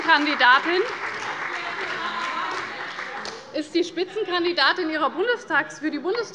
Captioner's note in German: Beifall bei Abgeordneten der CDU und der FDP